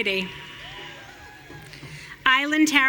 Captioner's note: audience cheering